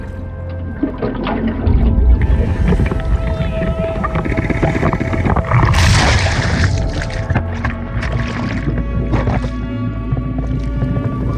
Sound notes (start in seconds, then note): 1.3 water gurgling; 8.3 suspenseful music